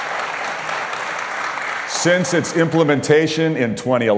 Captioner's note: applause